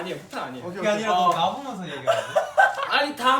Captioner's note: laughing